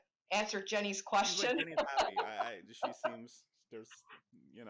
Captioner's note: laughs